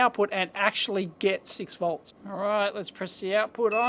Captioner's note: beep